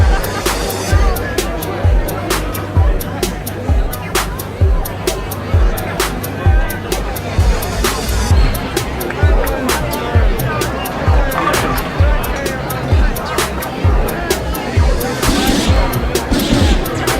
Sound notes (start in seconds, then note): 1.5 people chatting indistinctly; 8.1 upbeat music